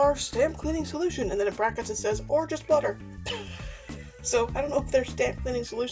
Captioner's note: laughs